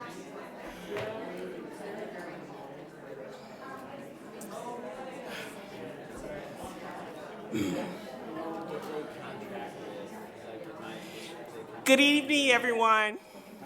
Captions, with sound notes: (people chattering indistinctly) - Good evening everyone.